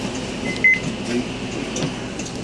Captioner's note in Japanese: 乗車時のタッチ音